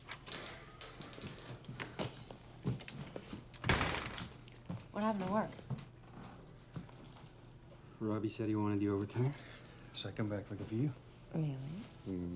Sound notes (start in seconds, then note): 3.6 door closes